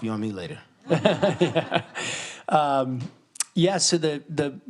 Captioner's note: laughter